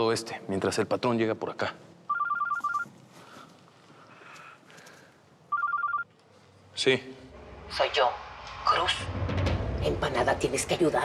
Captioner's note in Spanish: suena un celular